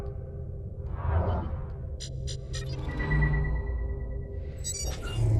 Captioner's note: interface beeps